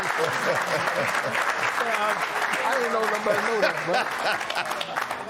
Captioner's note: cheers and applause